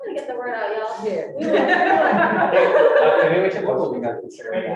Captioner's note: all laughing